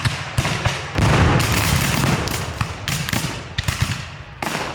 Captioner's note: guns fire